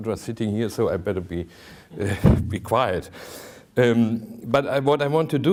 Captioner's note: chuckling